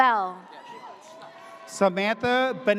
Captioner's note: audience cheers